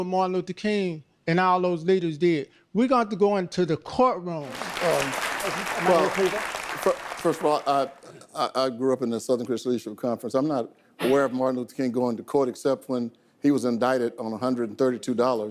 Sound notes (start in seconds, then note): 4.4 audience applause